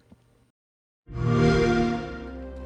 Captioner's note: xbox sound